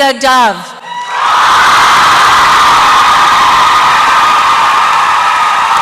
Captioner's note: applause and cheering